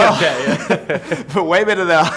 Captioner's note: laughing